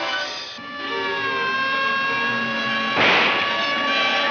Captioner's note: siren wailing; tires screech